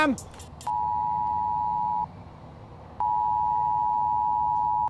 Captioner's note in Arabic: صوت صفير منخفض رتيب